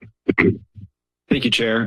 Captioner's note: mic noise